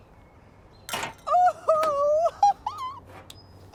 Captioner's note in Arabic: يضحك بسعادة